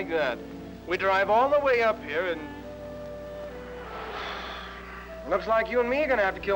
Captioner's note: sighs